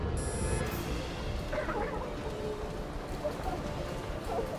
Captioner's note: coughing